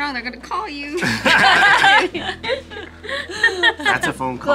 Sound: group laughs

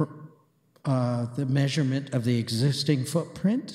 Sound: none

